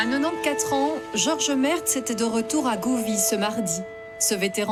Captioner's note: speaking in French; speaking in French